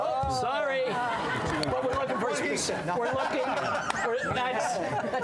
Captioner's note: laughter